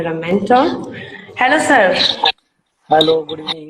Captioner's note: says excitedly